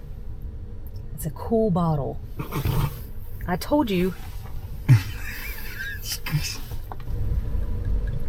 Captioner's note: choke; laughing